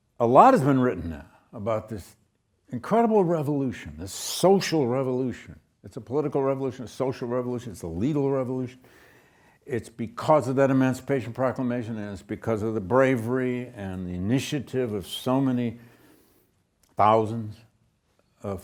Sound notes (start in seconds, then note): none